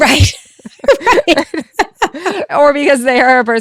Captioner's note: presenter laughing